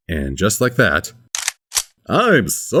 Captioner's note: reload sounds